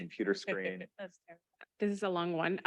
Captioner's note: chuckles